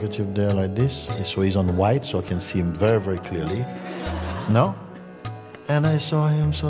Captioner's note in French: rires